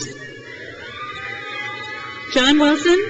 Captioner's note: crowd cheers